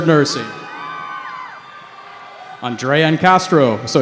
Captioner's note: cheering